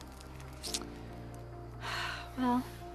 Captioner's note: sighs